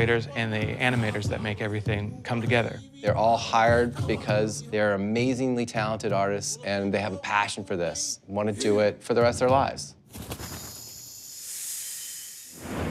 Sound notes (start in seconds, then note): 10.1 bird wings flapping